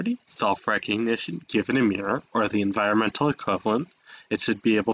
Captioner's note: breath